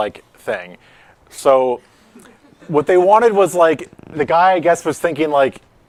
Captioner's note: laughter